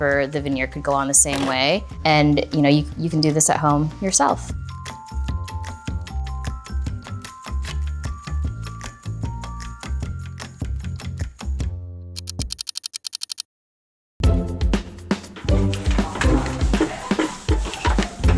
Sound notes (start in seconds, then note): 4.7 energetic music; 12.2 time ticking; 14.2 energetic music